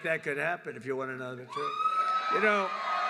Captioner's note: applause